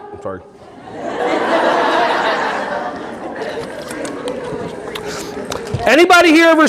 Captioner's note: audience laughing